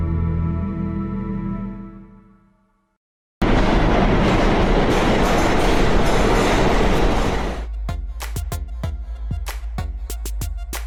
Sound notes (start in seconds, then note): 3.4 train rumbling; 7.6 hip-hop music